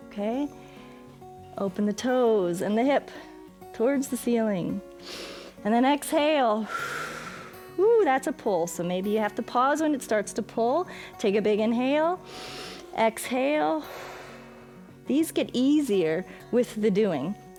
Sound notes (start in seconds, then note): 6.6 exhales; 12.2 exhales; 12.2 inhales